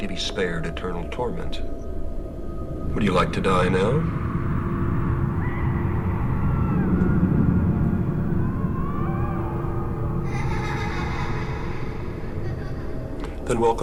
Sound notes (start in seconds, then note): 5.8 distant tormented cries; 10.2 distant child's laughter